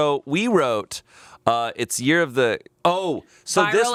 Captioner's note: none